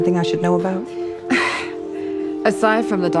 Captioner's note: scoffs